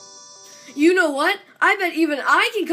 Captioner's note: none